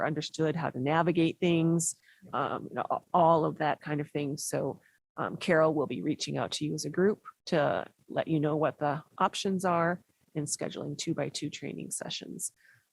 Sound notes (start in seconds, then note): none